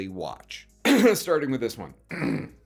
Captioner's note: coughs